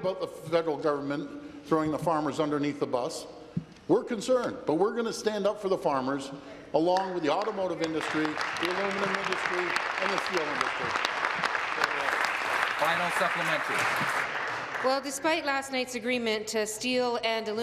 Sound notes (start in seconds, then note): 11.8 applause